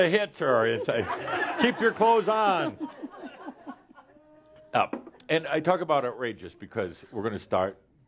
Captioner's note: more chuckles